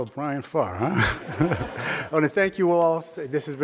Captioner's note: crowd laughing